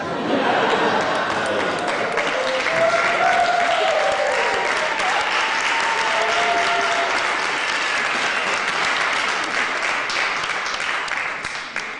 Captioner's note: applause